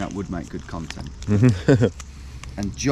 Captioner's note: laughs